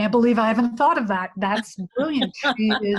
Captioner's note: laughing